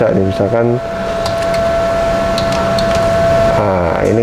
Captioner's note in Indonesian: suara mengetik